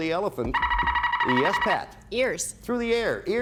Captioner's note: buzzer sounds